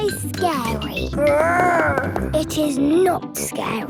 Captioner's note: growls